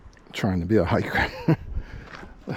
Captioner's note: laughter